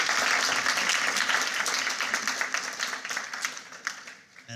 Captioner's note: applause